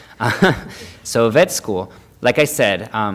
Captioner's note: laughing